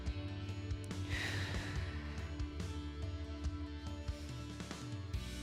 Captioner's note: exhales